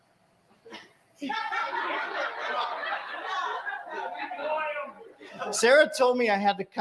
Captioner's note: laughter